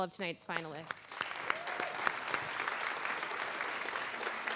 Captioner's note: applause